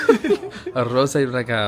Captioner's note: laughing